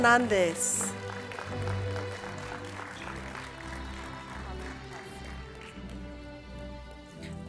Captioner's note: applause, Music